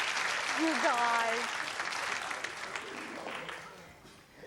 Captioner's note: applause